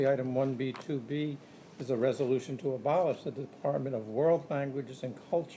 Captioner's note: none